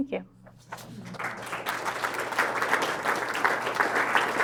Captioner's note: audience applauding